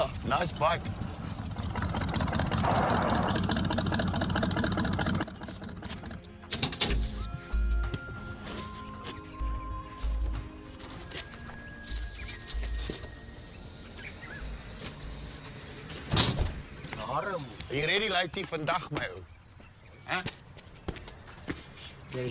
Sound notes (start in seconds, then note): 0.0 car engine rumbles; 6.2 old Western music; 16.1 car door slams